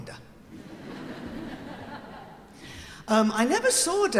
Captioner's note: audience laughing